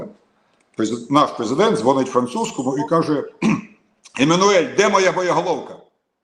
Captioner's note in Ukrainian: прочищення горла